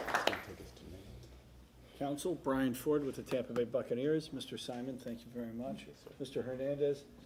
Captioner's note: applause